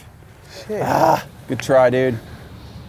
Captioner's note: groans in Anger